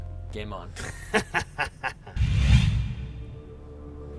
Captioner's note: laughs